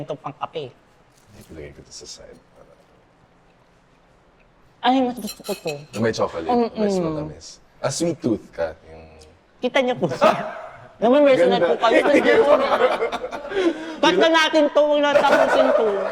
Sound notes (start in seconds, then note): 12.2 laughs